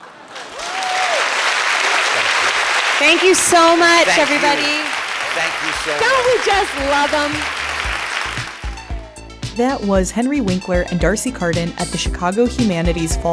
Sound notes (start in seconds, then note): 5.9 audience applause; 7.0 theme music plays